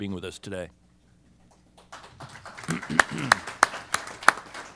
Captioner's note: applause